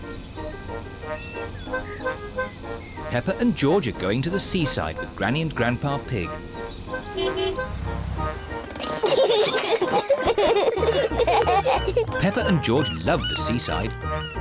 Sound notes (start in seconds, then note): 6.9 honks horn; 8.6 peppa and george giggle